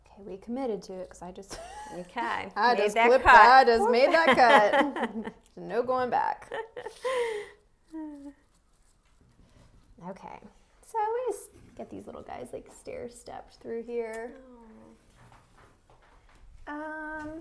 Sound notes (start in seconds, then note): 4.9 laughs